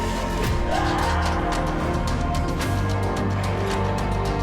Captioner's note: screams